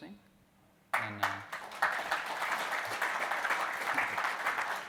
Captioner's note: audience applauds